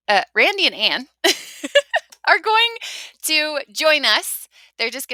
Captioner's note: laughs